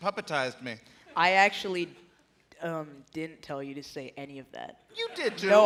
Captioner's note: laughter